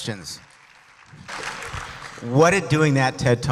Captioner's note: applause